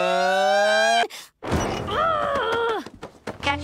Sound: muffled frustrated screaming

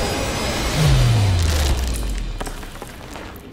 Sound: ice cracks

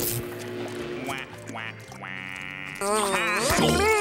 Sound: sad noises; buzzing

